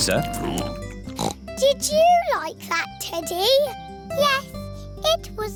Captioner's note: snorts